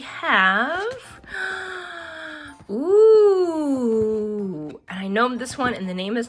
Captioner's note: gasps